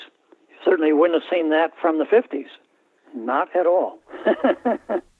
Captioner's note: laughter